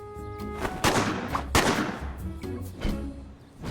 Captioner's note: gunshots; blows softly